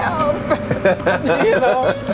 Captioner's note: laughing